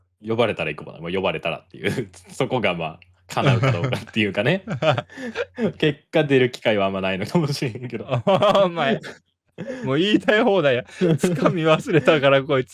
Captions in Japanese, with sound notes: 呼ばれたら行くも。 も呼ばれたらっていうそこがま、叶うかどうかっていうかね。結果出る機会はあんまないのかもしれへんけど。お前もう言いたい放題や。掴み忘れたからこいつ頑張ってその話続けようとして。 [笑い]